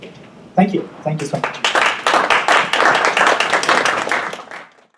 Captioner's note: audience applauding